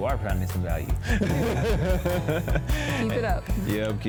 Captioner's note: laughs